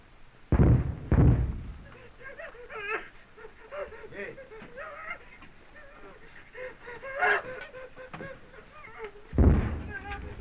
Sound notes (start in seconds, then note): 1.7 soldiers whimpering